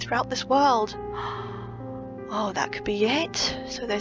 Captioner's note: gasp